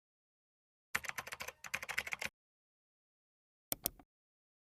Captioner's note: keyboard keys clacking